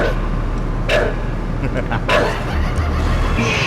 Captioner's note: crazed laughter, blood explosion